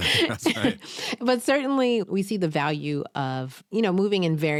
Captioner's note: laughs